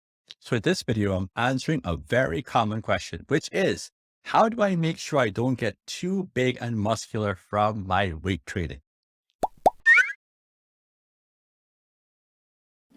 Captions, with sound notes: - So in this video, I'm answering a very common question which is how do I make sure I don't get too big and muscular from my weight training? (bubbles popping)